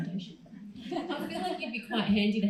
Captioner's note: crowd laughs